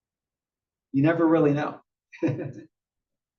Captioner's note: laugh